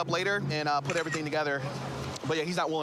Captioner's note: camera app clicks